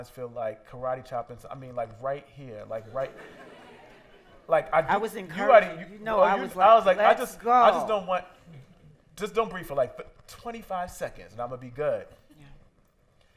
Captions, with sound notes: feel like karate chopping, I mean like right here, like right... (laughter) - I was encouraging you, you know I was like let's go. - Just don't breathe for 25 seconds and I'mma be good. - Yeah.